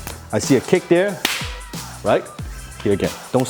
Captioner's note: hands clap